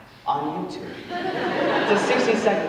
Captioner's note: audience laughing